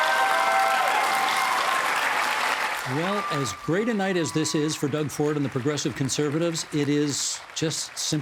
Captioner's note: cheers and applause